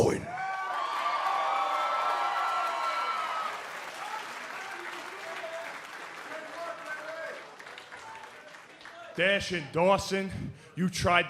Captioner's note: cheers and applause